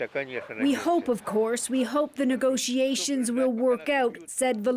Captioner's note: speaking alternate language